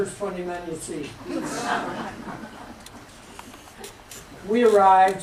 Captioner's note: laughter